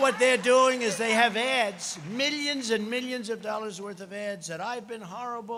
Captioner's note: applause